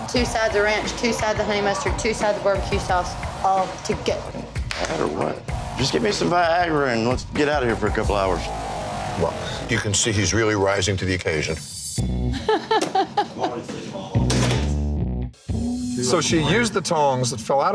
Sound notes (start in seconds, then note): 12.4 server laughing; 12.5 tense music